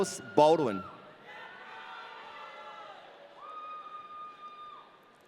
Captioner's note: audience cheering